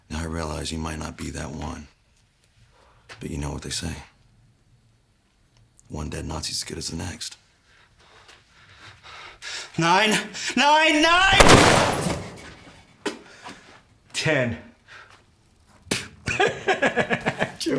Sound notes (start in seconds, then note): 11.2 gunshot booming; 16.2 Anderson laughing